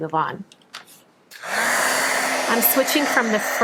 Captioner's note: air blows